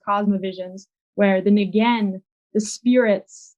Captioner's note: speaks in a foreign language